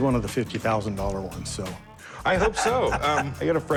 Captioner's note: laughs